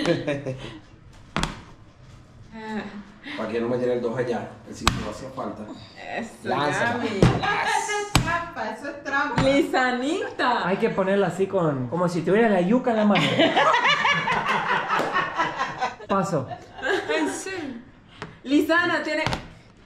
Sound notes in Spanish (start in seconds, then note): 13.2 Carcajadas